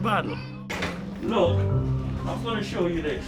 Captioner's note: metal taps